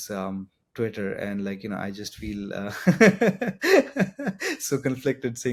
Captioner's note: laughs